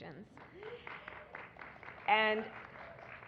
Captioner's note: applause